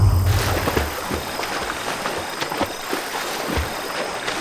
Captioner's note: Water lapping sounds